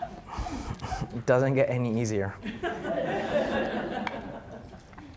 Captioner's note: audience laughing; audience laughing